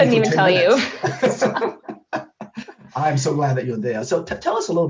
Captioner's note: laughter